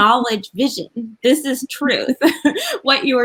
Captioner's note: laughs